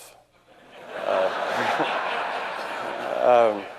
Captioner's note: audience laughing